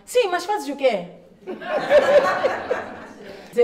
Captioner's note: laughter